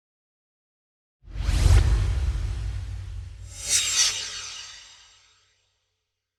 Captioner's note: swoosh